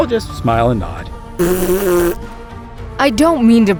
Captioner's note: blowing raspberry